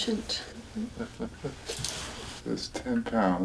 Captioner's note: chuckling